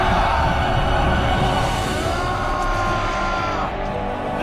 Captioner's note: screams